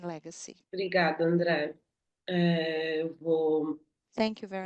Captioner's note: speaking in Portuguese